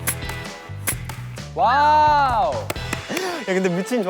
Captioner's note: sniff